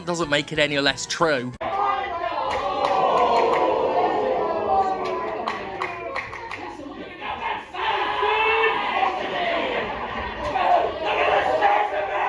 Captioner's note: wrestlers shout at each other, then the crowd cheers